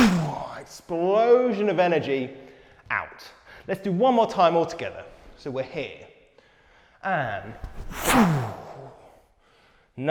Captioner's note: PHWoooM